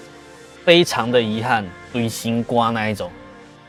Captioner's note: Taiwanese